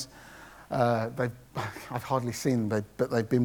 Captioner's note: laughs